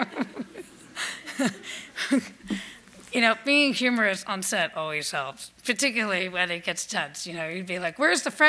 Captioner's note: laughs